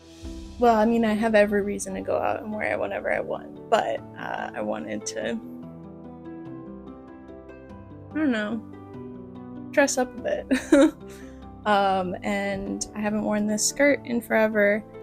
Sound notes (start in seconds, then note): 10.5 laughter